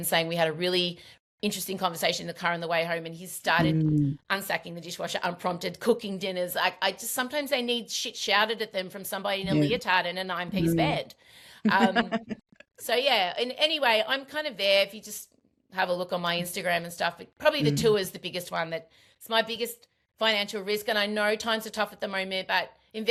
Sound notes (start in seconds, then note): 11.6 laughs